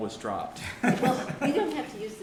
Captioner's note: laughter